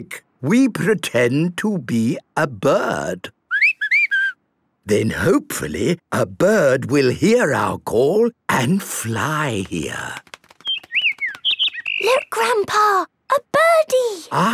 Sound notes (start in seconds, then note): 3.4 whistling; 10.4 bird